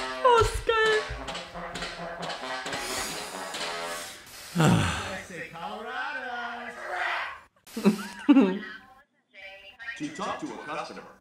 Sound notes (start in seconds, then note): 1.9 moans; 5.3 laughs